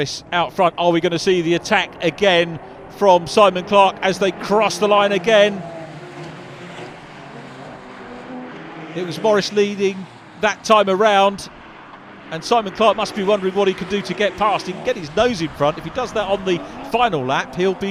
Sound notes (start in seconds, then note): 6.4 car engines revving